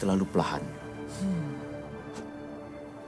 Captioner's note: sighs